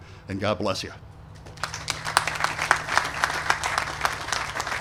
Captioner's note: applause